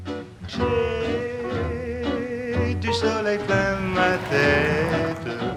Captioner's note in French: chant